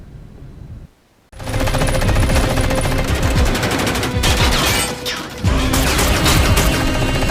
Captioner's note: dramatic music; gunfire